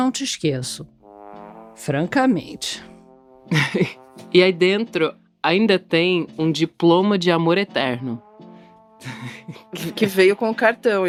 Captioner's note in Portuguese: risadas